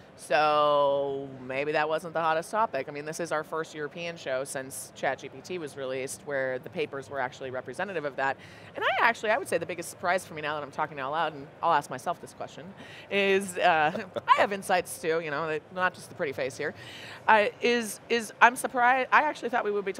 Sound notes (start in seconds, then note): 14.4 chuckling